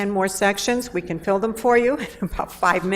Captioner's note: laughs